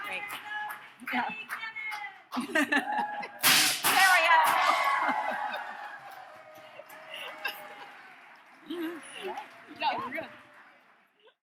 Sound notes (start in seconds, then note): 2.3 laugh; 3.4 confetti pops; 4.1 laugh; 5.0 audience cheers